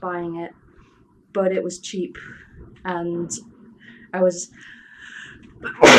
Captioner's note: sneezes